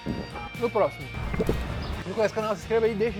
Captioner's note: swallows